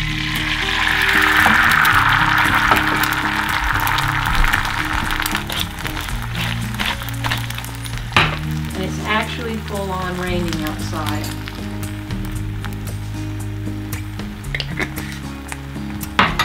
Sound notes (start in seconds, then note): 0.8 bubbling sound; 4.7 crunching cracking sound of pepper mill